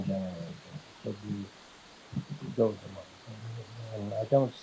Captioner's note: distorted by water flowing